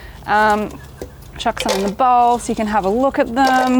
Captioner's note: chips clattering